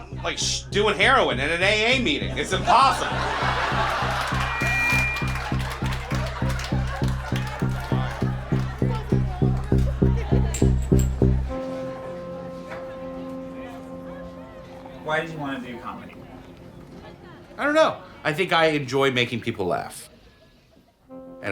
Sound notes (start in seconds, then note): 3.2 audience laughing; 4.3 audience applauding; 4.3 mic feedback blares; 8.0 people chattering; 10.5 shot glass clinks; 11.5 gentle music